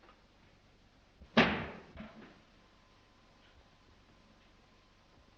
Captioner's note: clack